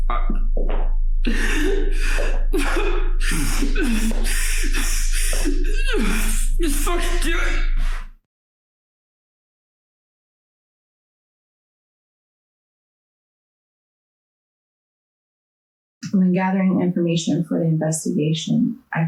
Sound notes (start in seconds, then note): 1.2 David sobs